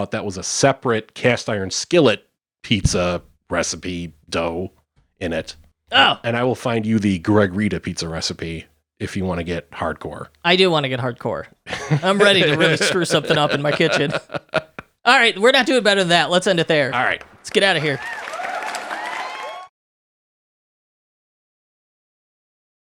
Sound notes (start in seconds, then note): 11.7 laughing; 18.8 applause sound